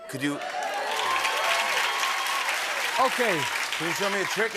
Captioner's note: cheers and applause